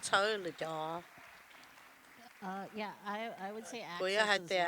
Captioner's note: applause